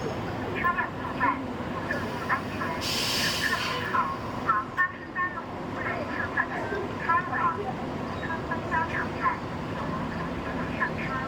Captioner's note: bus Announcement